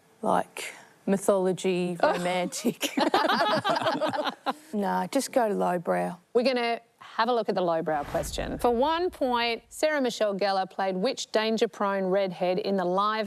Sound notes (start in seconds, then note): 3.0 all laugh